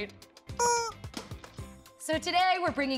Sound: squeak

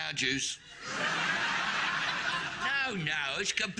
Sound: audience laughing

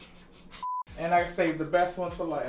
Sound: chuckles; electronic beep

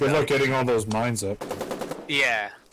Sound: machinegun fire

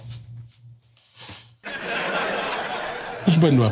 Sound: laughter

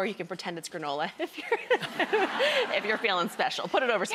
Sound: audience laughs

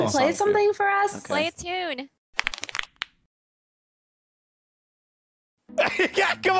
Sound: knuckles crack; laughter

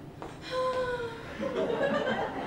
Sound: Sarah sighs louder

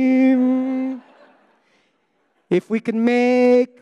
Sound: audience laughing

